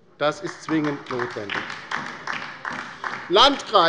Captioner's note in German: Beifall bei der LINKEN